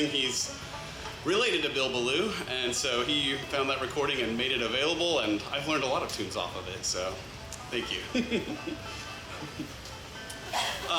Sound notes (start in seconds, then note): 10.4 laughs